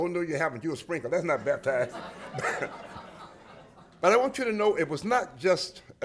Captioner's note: laughter